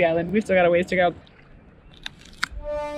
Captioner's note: slight crunch; triumphant music